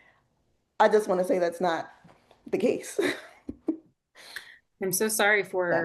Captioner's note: chuckles